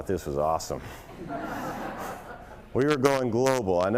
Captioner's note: laughter